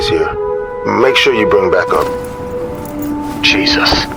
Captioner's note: bag rustling